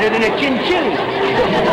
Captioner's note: audience laughter